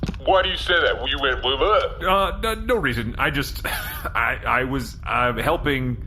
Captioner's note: nervous